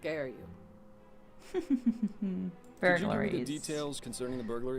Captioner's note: chuckles